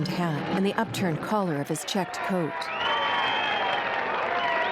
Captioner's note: clapping and whistling